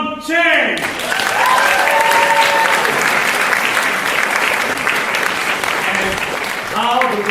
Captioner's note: applause